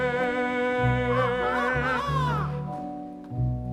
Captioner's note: Peter crows